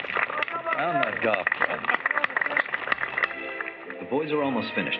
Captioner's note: applause